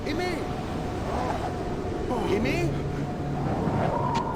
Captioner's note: Gauß stöhnt